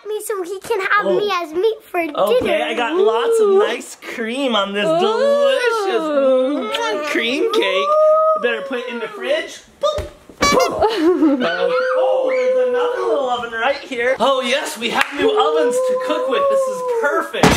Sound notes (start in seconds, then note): 10.0 squeaking sound effect